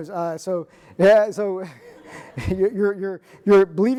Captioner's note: audience laughing